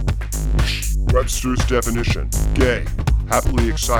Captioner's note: distorted Masculine Voice